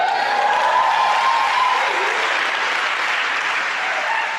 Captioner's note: audience applauding